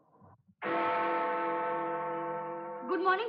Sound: bell Tolling

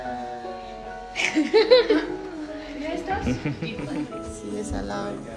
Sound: laugh

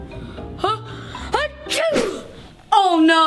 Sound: sneezes

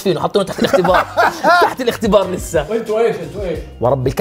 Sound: laughter

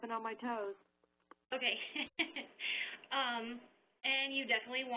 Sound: laughs

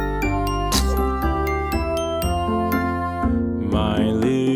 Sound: dad gasps; baby sneezes

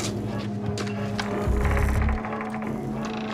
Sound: door creaks

